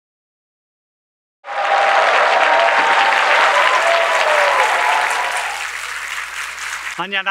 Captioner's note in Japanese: 拍手と歓声